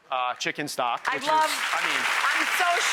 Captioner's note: audience applause